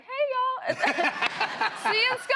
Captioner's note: laughter